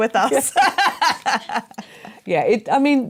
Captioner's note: laughter